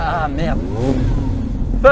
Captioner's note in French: Coup de gaz